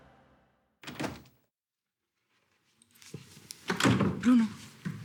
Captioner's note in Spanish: Ruido al abrir la puerta